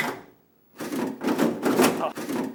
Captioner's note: clatters